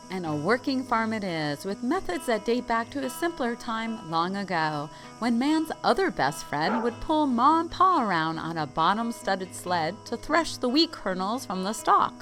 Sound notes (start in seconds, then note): 6.6 sound: dog bark